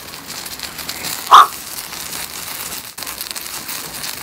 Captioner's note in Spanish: sopla fuerte